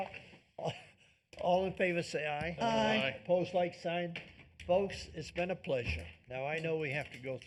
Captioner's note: laughter